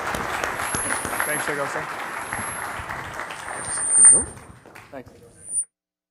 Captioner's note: applause